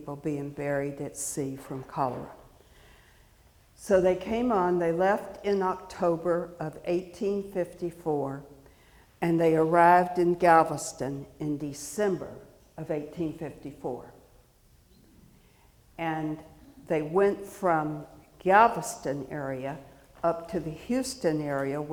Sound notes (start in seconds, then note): none